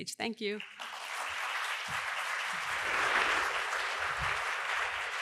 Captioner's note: applause